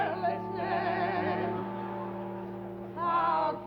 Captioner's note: audience laughter